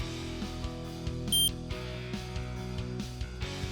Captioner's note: one short beep